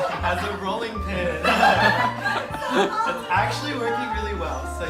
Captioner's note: all laughing